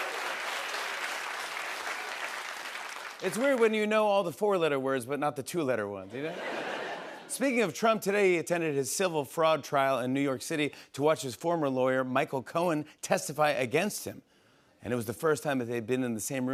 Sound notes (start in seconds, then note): 0.0 applause; 2.8 normal voice